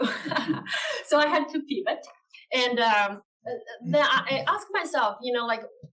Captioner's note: laugh